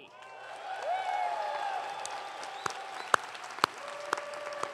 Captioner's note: audience cheering